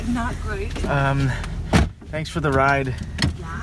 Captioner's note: car door slams